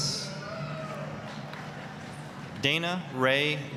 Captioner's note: applause, cheering